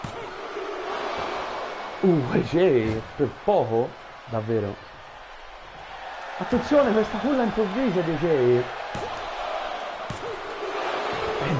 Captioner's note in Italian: Applauso